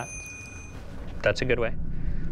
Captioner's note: bell ringing